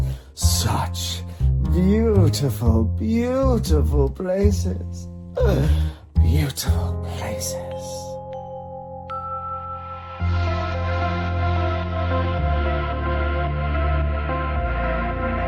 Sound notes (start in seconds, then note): 6.2 whispers; 10.2 upbeat music